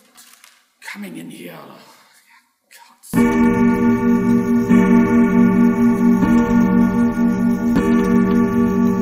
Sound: bells chime

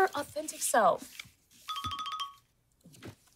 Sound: phone chiming

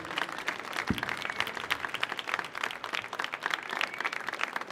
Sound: audience applauding

